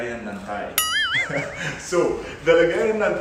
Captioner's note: laughs